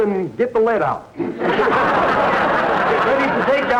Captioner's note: audience laughter